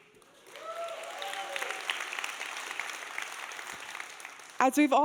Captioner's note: audience applauding and cheering